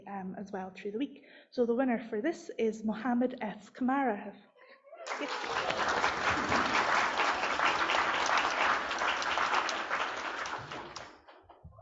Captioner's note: applause